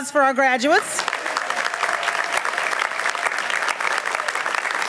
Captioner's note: applause